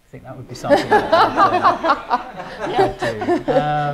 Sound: laughing

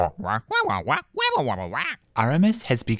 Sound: squawking

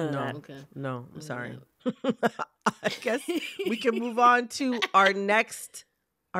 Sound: laughter

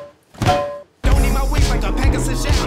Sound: skillet panging

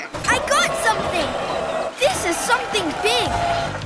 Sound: cheering

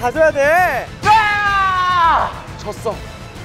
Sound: shouting to the back

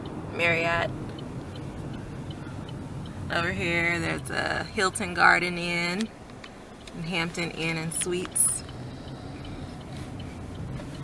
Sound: car signal

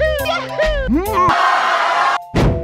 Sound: screaming

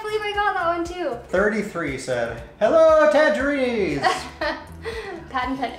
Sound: laughs

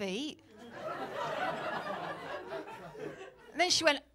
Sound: laughter

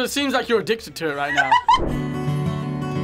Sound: laughs; soft guitar music

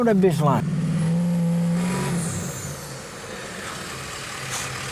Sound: truck revs

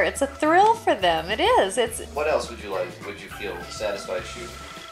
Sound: voiceover

